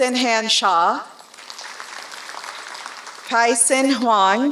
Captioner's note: applause